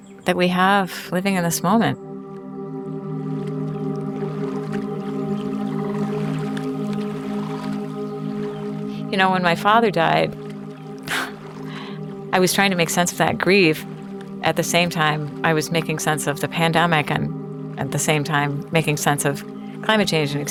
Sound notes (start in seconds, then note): 3.0 somber music; 5.1 water sloshing